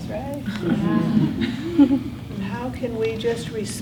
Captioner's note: students mumbling agreement